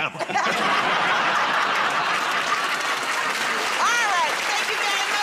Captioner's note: laughter